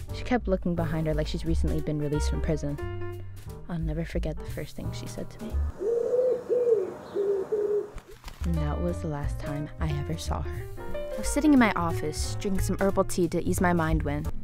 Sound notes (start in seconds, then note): 5.6 pigeon noises